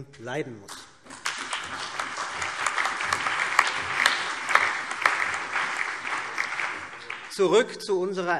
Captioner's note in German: Beifall